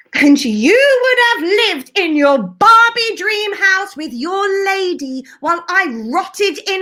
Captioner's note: none